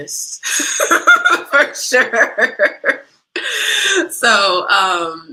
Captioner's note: laughter